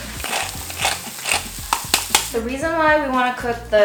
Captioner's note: sound of pepper cracking